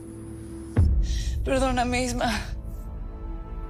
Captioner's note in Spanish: Sollozos